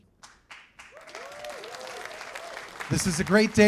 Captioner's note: cheers and applause